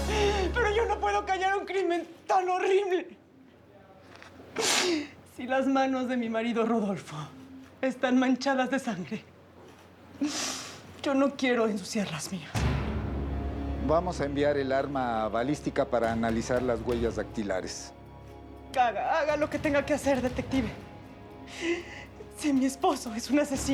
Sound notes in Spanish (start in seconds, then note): 0.0 Sollozos; 4.6 Sollozos; 21.5 Sollozos